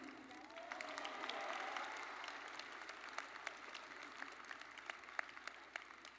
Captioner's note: audience cheering and applauding